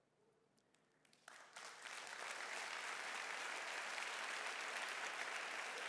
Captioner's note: audience applauding